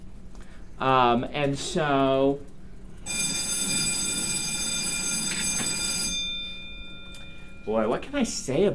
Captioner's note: bell rings